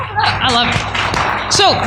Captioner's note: applause